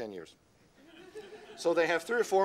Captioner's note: laughter